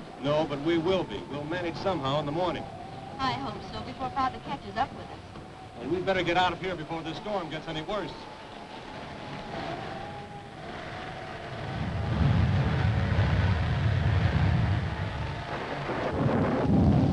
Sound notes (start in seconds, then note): 8.6 thunder rumbling; 8.6 wind howling